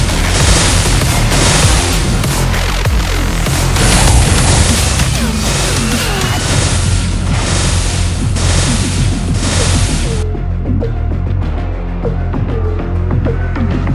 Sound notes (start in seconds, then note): 0.0 explosion; 8.5 explosion